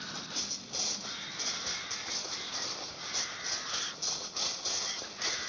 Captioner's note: birds Continue Squawking In Distance